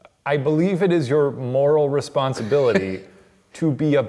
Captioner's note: laughs